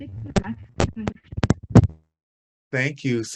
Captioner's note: microphone static